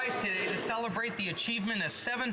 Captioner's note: some Applause